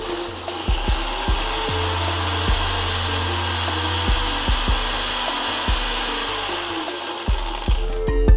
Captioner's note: grinder sound